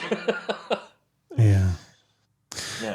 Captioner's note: laughs